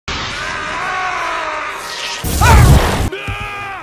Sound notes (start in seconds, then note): 0.2 screams; 3.1 yelling